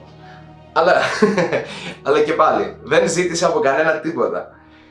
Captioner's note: laughs